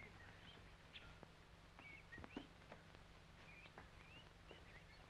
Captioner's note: birds chirping